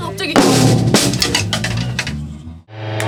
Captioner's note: crash